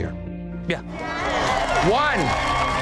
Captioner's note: dramatic music; crowd cheering